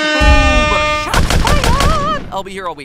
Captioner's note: intense explosion; intense gunfire